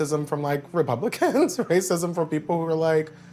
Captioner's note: Malcolm chuckles